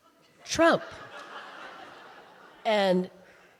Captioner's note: audience laughing